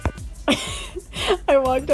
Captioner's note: laughing